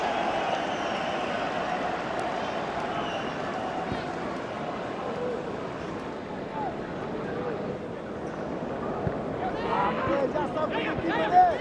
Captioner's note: audience oohs